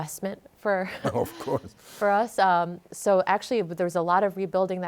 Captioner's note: both chuckle